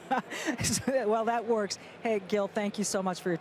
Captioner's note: laughs